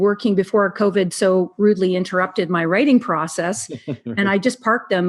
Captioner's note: laughs